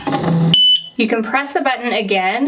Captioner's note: beeping sound